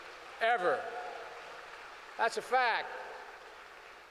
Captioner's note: applause